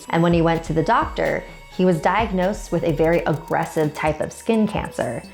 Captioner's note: aggressive